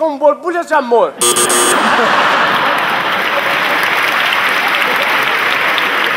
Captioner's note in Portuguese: campainha e aplausos